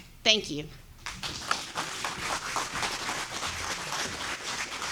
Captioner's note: audience applauding